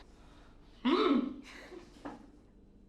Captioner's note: oomphs